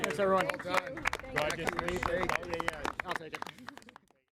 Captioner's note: all clapping